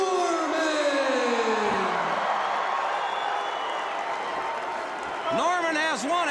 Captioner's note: crowd cheering